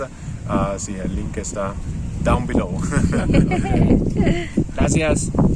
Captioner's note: laughing